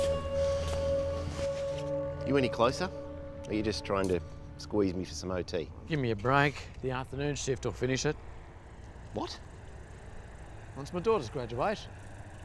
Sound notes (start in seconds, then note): none